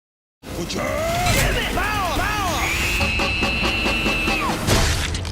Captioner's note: engine revs; screams; boat crashing